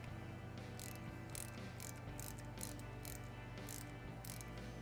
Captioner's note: wrench moving